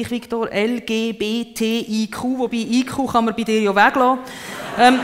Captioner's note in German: deutsch ausgesprochen